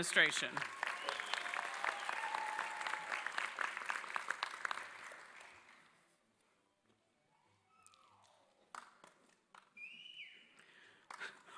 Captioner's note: applause